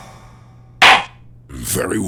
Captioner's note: gavel slams!